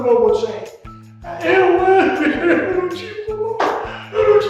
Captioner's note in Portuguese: chorando